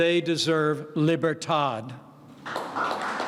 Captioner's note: applause